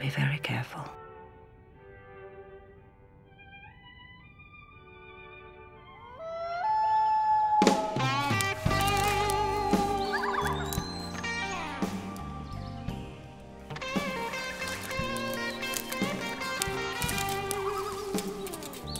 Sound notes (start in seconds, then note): 8.6 animal howls; 10.6 blues rock music